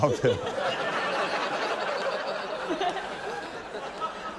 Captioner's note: laughter; chuckles